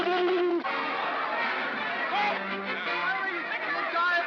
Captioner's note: gurgling; commotion; whimsical music